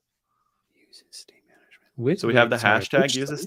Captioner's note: whispers